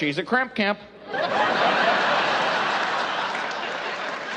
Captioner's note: laughing